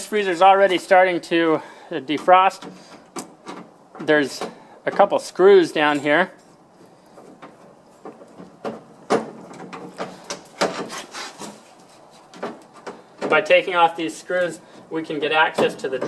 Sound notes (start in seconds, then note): 9.0 plastic creaking